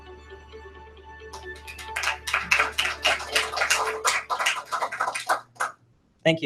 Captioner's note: applause